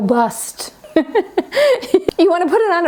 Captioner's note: giggles